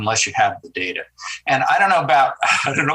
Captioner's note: senator chuckles